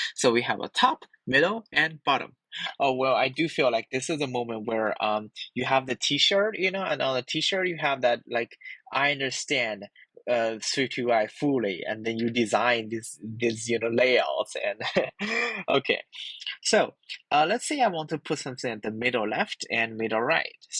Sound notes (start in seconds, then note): 14.7 laugh